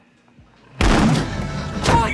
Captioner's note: door booming